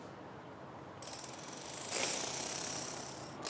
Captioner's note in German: Werkzeug rattert